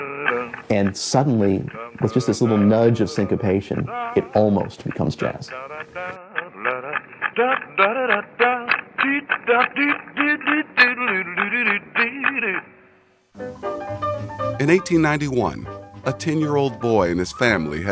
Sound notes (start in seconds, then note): 6.0 humming, scatting continues; 14.6 piano playing